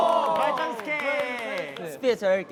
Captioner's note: clap clap